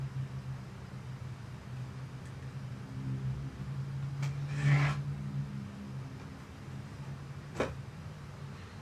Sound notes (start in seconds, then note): 3.5 vehicle droning